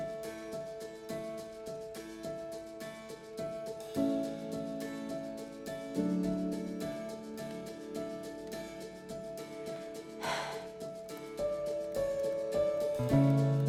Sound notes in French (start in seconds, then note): 10.2 soupirs